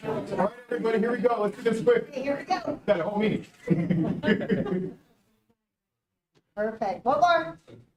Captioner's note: laughter